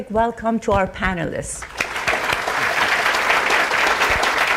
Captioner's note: audience applauding